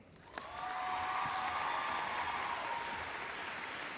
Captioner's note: applause